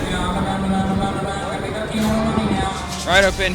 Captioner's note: auctioneer calls